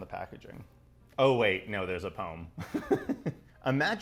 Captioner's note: laughing